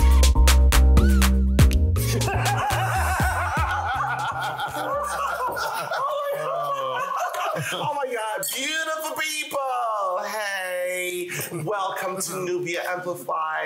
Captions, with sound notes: (panel laughing) - Oh, my God! Oh, my God! Beautiful people, hey, welcome to "Nubia Amplified."